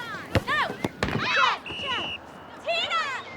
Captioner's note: whistle blows